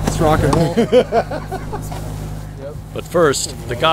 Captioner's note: laughter